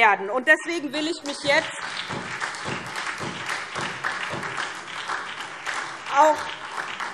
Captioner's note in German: Beifall SPD